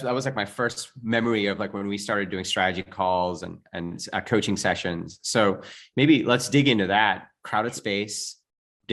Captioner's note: none